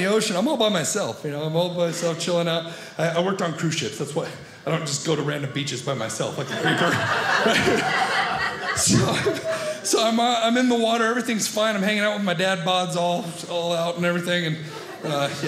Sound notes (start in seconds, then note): 6.4 audience laughing